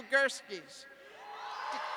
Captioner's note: cheers